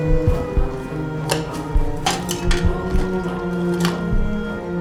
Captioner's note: eerie music; medical tools clacking; eerie music